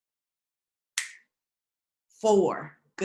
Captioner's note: snaps fingers